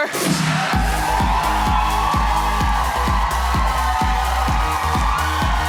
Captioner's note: audience applauding and cheering